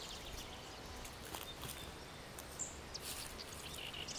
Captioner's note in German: Knisterne Geräusche vom Gehen